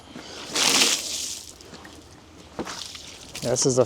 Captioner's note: water splashes